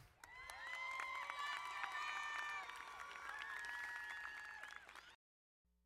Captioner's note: crowd cheering and applauding